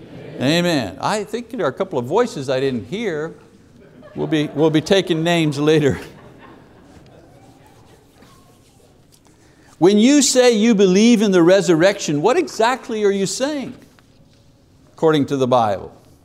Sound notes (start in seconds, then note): 2.6 laughter in congregation; 7.1 laughs